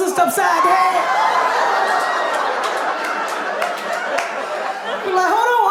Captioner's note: audience laughing